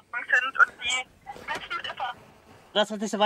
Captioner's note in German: Rauschen